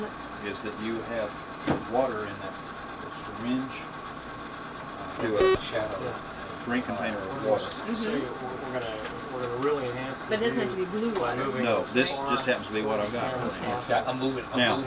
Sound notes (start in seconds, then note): 5.4 beeping; 8.2 men murmuring in background